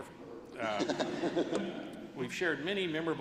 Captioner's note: laughter